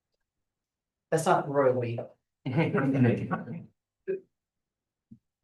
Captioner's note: laughter